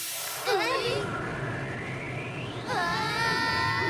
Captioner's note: whoosh; screams